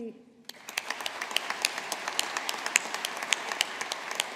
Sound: audience applauding

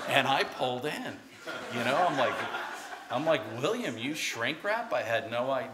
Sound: laughter

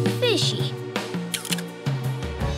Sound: camera flashing

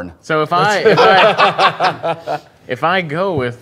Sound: laughter

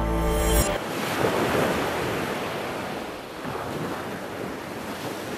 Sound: ocean waves splashing

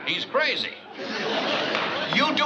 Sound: bang

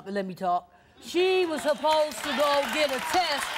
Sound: applause

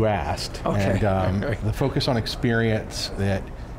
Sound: laughs

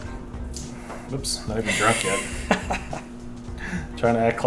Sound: laughs

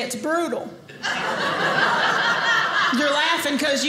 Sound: audience laughing

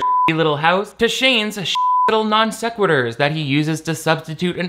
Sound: beep

